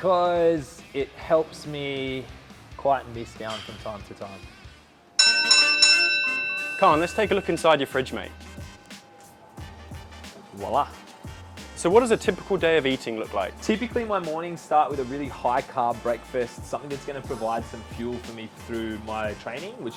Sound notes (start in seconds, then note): 5.2 bell dings